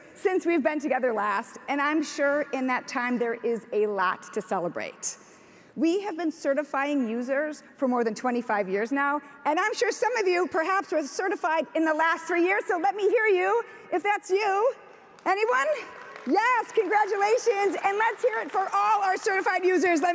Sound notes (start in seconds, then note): 15.9 audience applauds